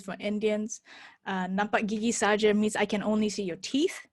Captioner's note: speaks in foreign language